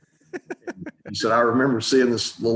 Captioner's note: laughing